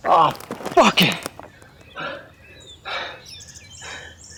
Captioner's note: footsteps crunching